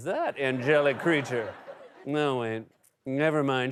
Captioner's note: laughter